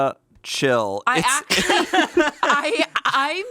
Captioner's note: laughs